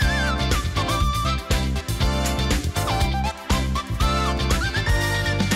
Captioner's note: carnival-noise